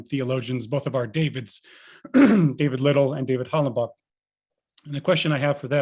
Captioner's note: clears throat